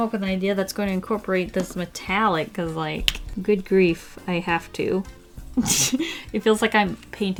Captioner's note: laughs